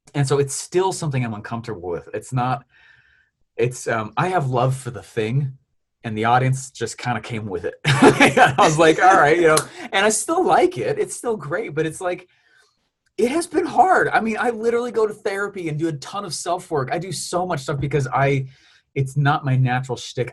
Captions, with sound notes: And so it's still something I'm uncomfortable with, it's not, it's I have love the thing and the audience just kind of came with it. (laughs) I was like, all right, you know, and I still like it. It's still great, but it's like, it has been hard. I mean, I literally go to therapy and do a ton of self work. I do so much stuff because I, it's not my natural stick.